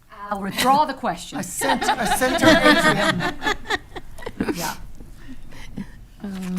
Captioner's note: attendees laughing